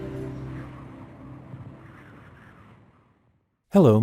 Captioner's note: wind